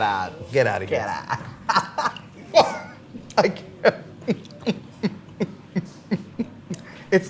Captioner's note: laughs